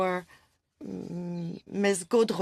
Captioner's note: speaking French